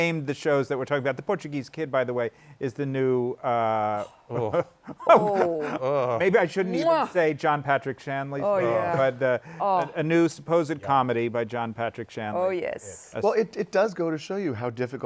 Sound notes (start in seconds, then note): 3.9 sighs; 4.0 chuckles